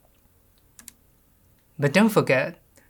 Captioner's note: keyboard clicks